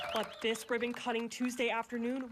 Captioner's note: clapping?